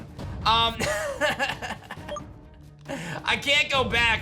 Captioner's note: laughs